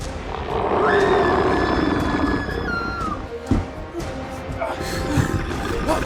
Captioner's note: Eric growling; Charlotte screaming